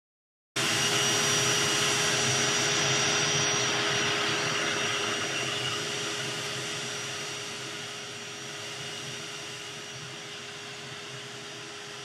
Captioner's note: loud vacuum suction